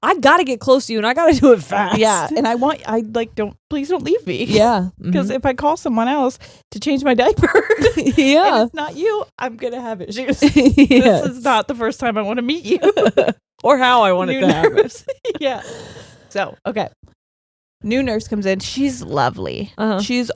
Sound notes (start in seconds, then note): 7.4 laughing; 14.4 both laughing